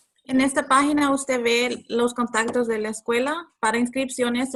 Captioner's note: speaking Spanish